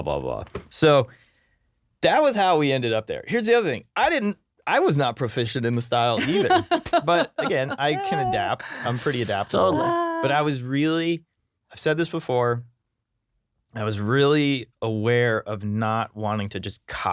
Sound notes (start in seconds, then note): 6.1 laughing